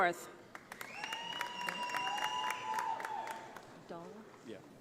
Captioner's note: audience applauding